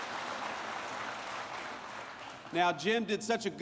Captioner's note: applause